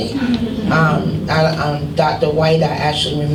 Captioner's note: laughing